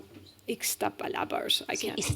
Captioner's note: speaking spanish